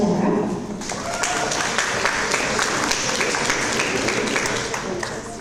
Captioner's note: audience applause